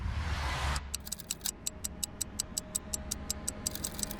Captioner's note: ticking